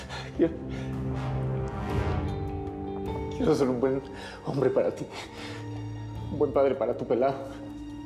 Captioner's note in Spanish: sollozos